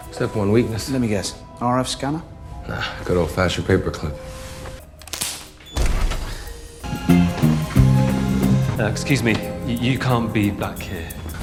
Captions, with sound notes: "Step one weakness." "Let me guess, RF scanner?" "Ah, good old-fashioned paper clip." [crack] [crack] [crack] [dramatic music] "Uh, excuse me, you can't be black here."